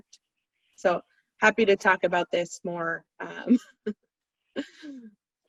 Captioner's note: chuckles